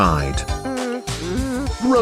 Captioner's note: whimpering